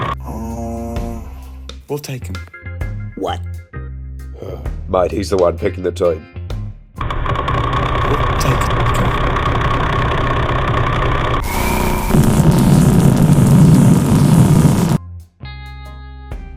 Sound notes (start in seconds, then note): 4.3 sigh; 7.0 more real pulsar sounds; 8.0 voice echoes; 9.4 even more real pulsar sounds; 11.5 massive, powerful object flying through space sound but louder